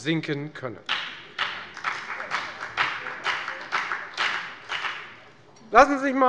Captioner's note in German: Beifall bei der FDP